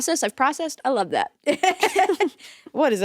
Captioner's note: both chuckling